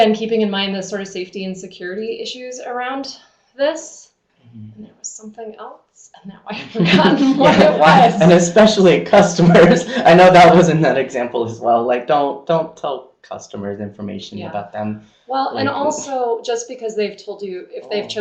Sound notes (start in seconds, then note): 6.5 speakers laughing